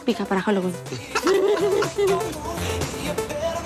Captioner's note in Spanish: Risas